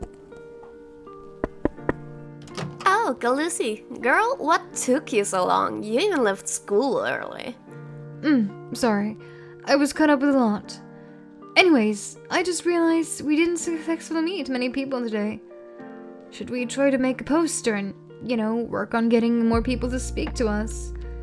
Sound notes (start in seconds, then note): 0.0 Hoof steps from Gal; 1.4 knock knock knock